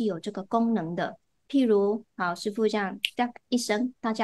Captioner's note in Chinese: 弹指